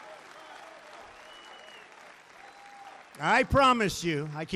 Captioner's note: applause